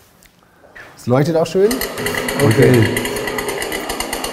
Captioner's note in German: lauter Motor-Klang